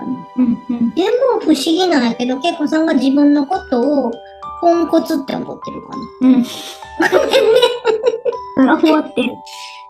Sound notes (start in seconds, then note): 7.0 laughs